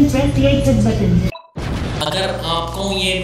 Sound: blast

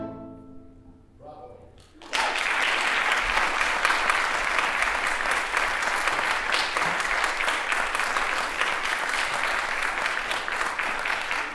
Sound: applause

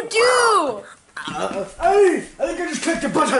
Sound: seizure Sounds

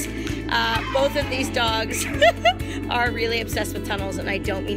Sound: laughs

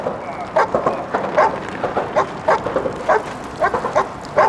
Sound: men urinating

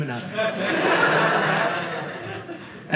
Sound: audience laughing

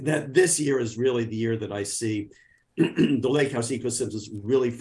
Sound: clears throat

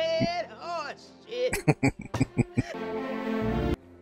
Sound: laughing

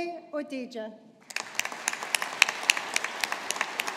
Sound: audience applauding

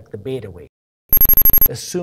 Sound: loud beeping

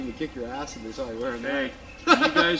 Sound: laughter

